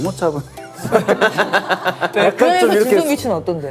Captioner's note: hahahaha